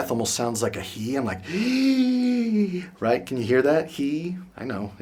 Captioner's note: inhales heavily